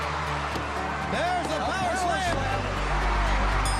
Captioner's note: wrestlers thudding